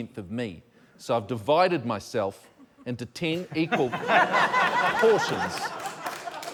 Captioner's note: laughter